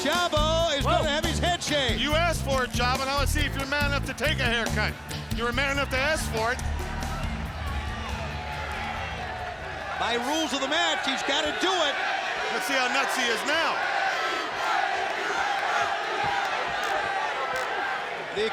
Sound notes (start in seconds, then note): 0.0 mellow percussive music; 8.2 fans shouting; 14.3 fans chanting